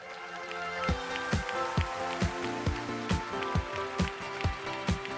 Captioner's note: applause